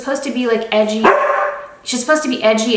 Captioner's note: Nyx barks